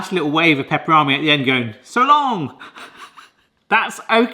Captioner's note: laughs